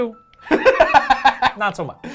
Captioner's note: laughing